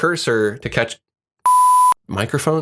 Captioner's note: beeps